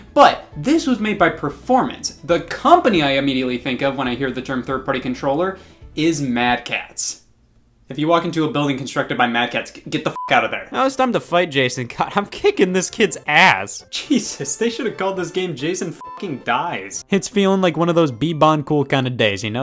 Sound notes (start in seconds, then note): 10.1 beep; 16.0 beep